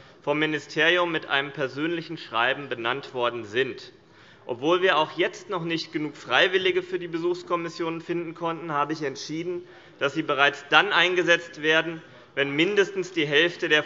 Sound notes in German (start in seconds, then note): none